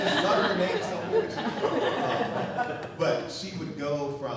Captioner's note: audience laughing